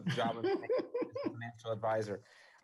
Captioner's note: guffaws